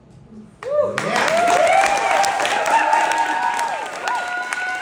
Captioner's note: audience applause and whooping